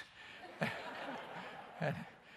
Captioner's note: laughter